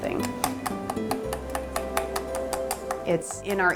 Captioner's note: utensil clacking